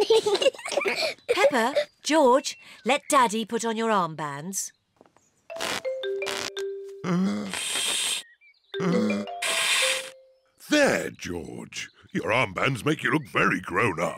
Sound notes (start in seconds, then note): 0.0 both laugh; 8.8 blowing deeply